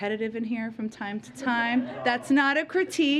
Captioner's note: laughter